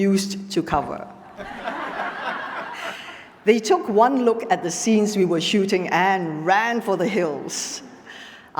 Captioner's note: laughter